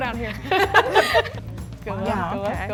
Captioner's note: group laughing